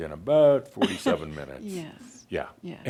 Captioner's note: chuckles